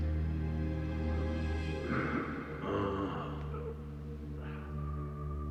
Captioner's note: Dominic groaning